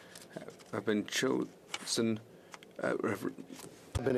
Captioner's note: speaking French